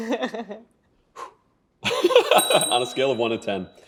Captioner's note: laughs; exhales, laughs; bell chimes